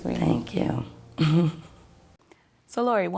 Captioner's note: chuckles